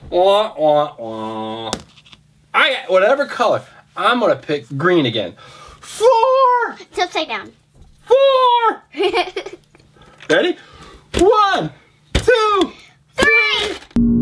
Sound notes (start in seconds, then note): 8.9 girl giggling